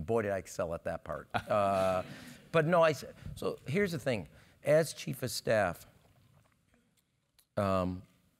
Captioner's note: laugh